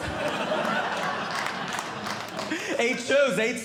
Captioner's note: audience Laughing